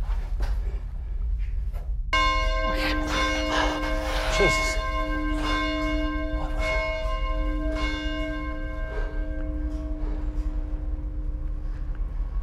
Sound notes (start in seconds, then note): 2.1 bell rings